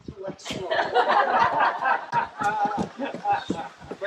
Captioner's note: laughter